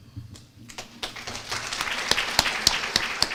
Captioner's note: applause